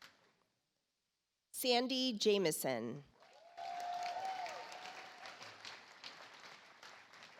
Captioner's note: audience applauds